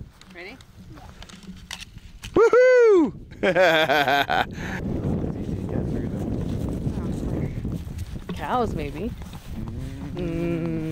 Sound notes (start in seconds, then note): 3.4 laughs